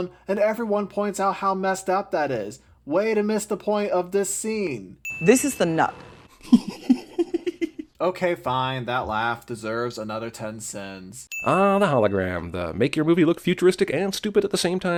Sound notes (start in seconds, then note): 6.3 laughs